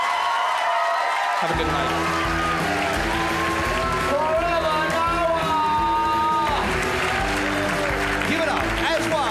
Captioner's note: crowd laughs and cheers